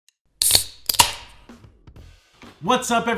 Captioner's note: can opening sound